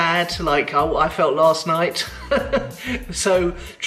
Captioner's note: laughs